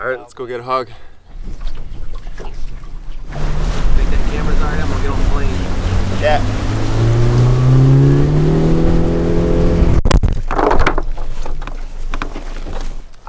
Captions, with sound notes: All right, let's go get a hog. (engine working)